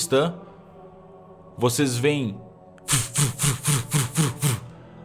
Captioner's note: voof, voof, voof, voof